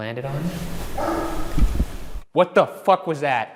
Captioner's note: bark